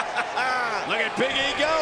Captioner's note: JBL laughs